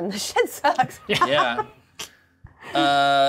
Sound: co-hosts laughing

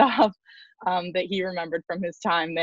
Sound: laughs

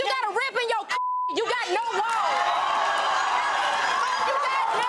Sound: beep; clapping; audience yelling in shock

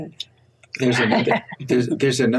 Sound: laughs

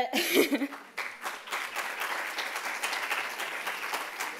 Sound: applause

